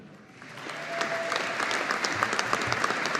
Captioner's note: audience applauding